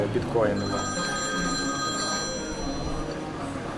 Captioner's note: phone ringing